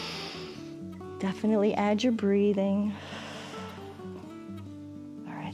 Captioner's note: inhales; exhales